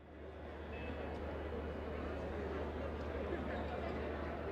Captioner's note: crowd chattering